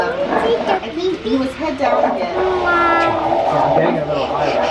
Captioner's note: animal noises